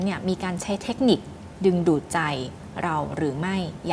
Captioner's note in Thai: none